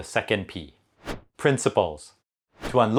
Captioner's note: graphics whooshing